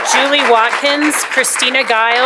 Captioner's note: applause; cheering and applause